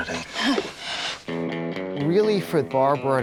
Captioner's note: nervous chuckle